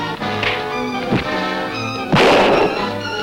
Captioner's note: punch cracking; gunshot banging